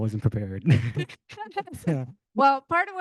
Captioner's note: host laughing